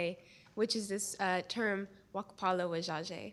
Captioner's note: non-english speech